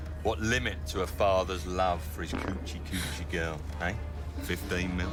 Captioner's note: men farting